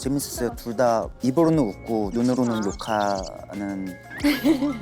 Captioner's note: cursing